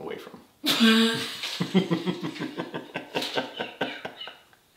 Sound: both laughing

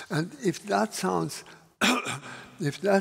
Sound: coughs

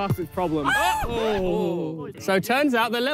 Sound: players shriek

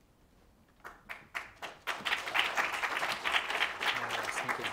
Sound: applause

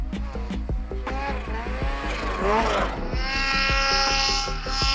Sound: snowmobile engine racing

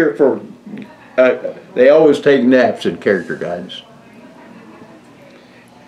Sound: laughs

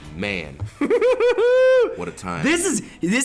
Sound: laugh

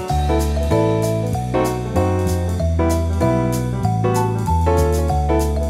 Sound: none

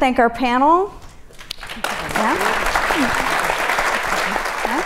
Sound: audience applauds

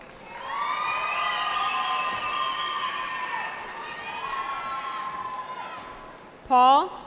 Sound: cheering

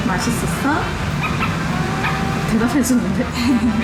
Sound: groan groan

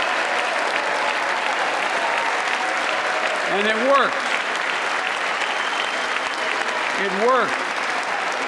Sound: applause

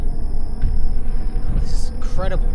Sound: sirens and Rumbling

